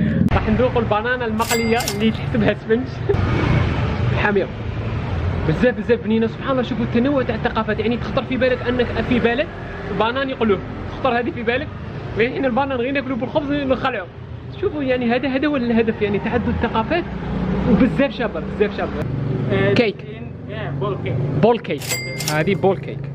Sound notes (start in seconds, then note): none